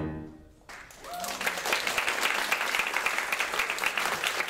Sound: audience clapping

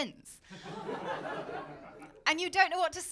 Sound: laughter

